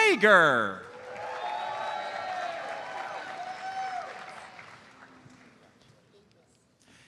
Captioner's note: audience cheers and applauds